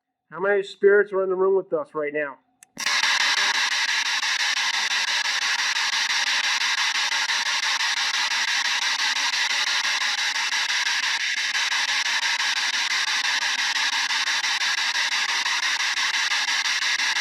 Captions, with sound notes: How many spirits are in the room with us right now? [RADIO NOISE]